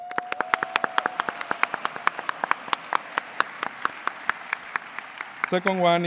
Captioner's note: applause